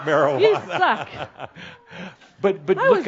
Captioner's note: Adamus chuckles